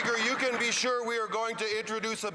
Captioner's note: some Applause